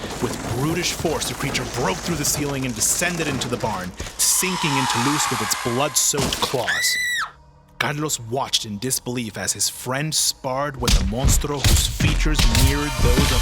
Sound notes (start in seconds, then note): 6.6 Luz screams